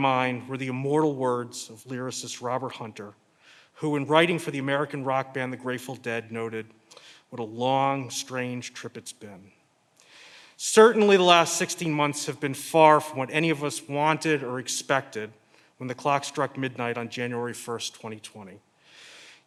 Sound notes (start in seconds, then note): none